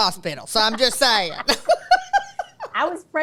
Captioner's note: laughs